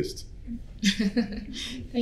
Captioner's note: chuckles